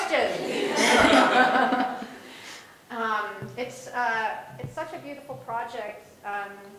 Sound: laugh

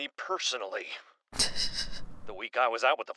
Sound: laughs

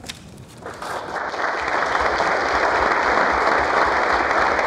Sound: applause

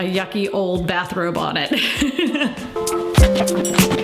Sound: laughter; relaxed music

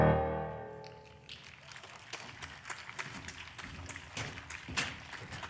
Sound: applause

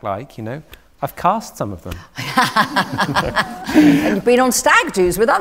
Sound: laughter

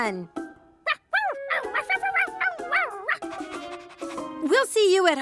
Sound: Sparky barking

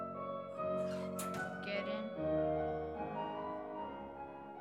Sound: over door creaking

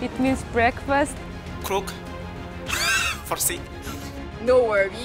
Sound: laughs

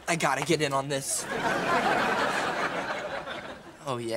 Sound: laughing

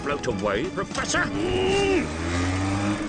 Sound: strains

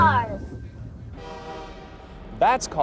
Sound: music ends, whistle blows

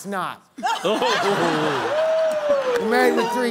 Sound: laughter

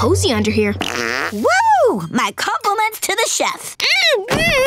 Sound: farting

